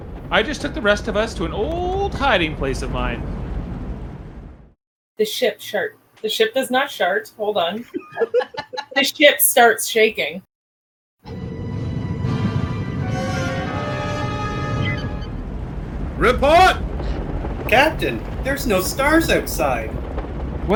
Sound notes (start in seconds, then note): 11.6 ship shakes